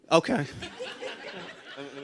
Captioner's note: laughter